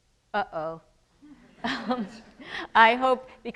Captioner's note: audience chuckles